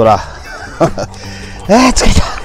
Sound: laughs

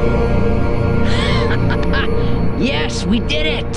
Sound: Jaymee laughing

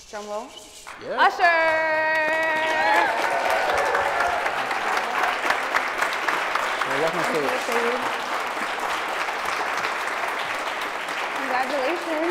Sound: applause

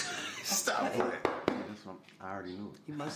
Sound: door knocks

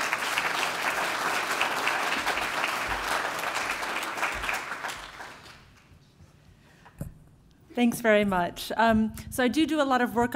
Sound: applause

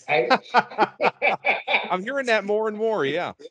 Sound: laughing

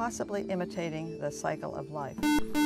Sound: buzzer

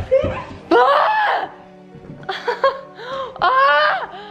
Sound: screams

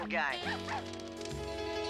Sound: barking

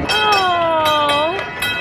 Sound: bell ringing

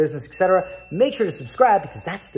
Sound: bell dinging

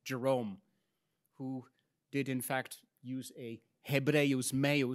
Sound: speaks in Latin

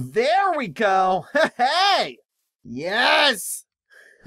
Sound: laughs

